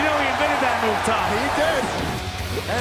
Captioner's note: crowd cheering